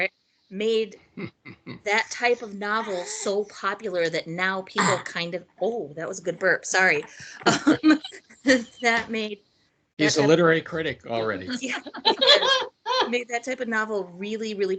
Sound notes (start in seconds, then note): 0.1 laughing; 4.8 baby burping; 7.2 laughing; 10.0 laughing